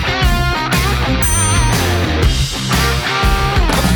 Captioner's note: dinging